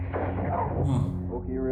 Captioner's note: laughing